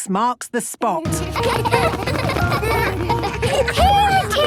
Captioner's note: laughter